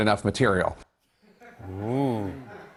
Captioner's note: light laughter